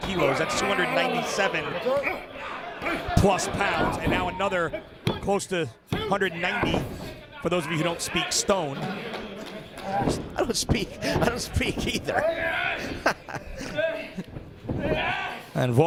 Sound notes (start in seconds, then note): 10.8 laugh